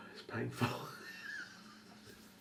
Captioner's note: chuckles